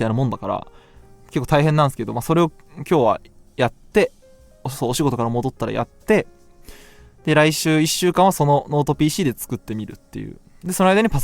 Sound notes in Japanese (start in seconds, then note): none